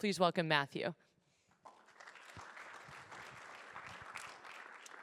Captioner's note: applause